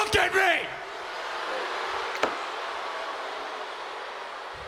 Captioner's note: audience booing